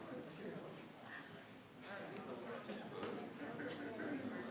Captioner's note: group quietly conversing